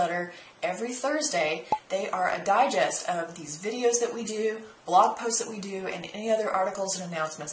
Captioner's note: pop